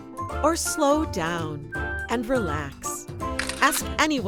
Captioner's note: camera clicks